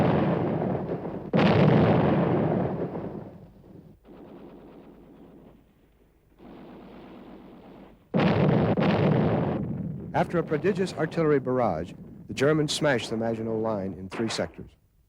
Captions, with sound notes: (explosion) After a prodigious artillery barrage, the Germans smash the Maginot Line in three sectors.